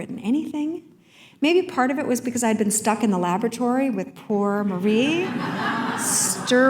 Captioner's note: laughter